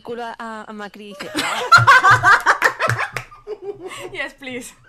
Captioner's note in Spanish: risas